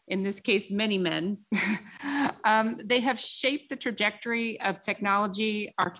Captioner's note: laughs